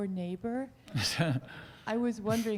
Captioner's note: laughing